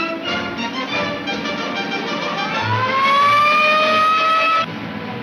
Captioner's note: police siren blares